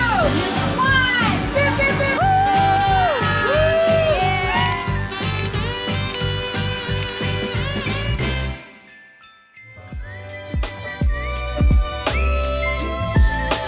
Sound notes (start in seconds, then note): 2.7 friends cheering; 5.0 camera snapping; 8.6 chimes tinkling; 10.4 upbeat festive music